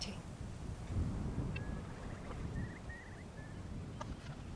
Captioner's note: curlew cry